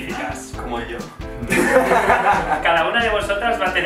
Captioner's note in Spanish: risas